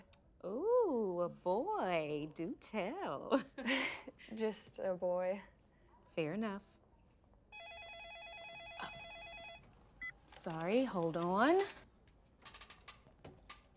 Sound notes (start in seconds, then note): 2.6 laughs; 7.5 phone rings